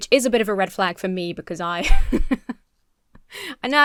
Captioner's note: laughs